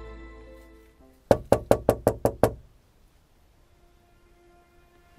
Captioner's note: knocks on window